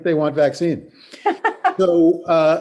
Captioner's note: laughs